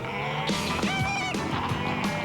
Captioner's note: screech